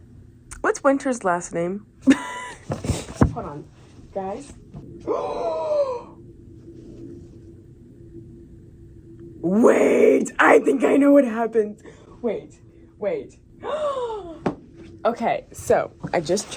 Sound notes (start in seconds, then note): 4.7 gasp; 11.8 another gasp